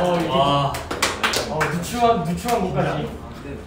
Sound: scattered applause

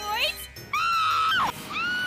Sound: screams in Space Invaders

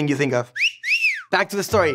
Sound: cat call whistle

